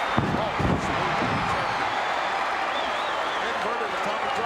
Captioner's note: audience cheering